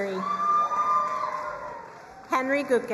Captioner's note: crowd cheering and applauding